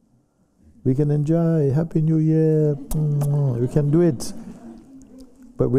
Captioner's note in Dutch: gelach